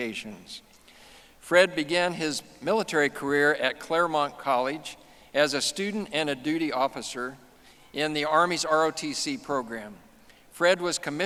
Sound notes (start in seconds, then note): none